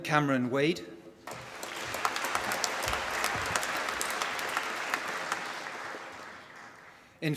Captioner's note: applause